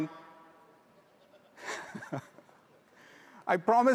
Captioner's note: all laugh softly